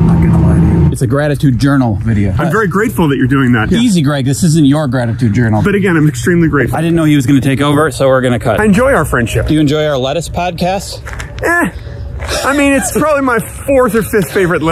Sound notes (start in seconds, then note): 12.2 laughing